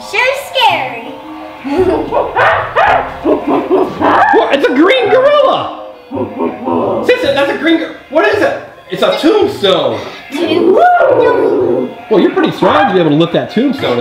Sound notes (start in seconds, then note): 1.6 gorilla growling